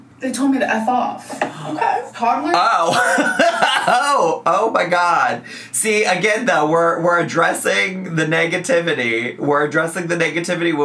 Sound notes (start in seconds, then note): 2.8 laughs